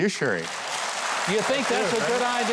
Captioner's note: audience applauds